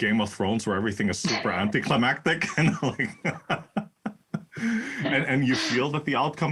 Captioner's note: laugh